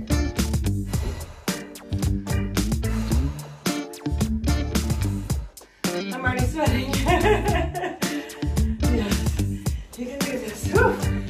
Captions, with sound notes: (electronic music) I'm already sweating. (laughing) You can do this.